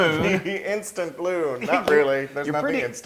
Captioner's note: laugh